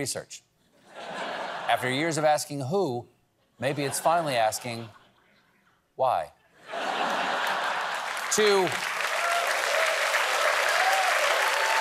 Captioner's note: applause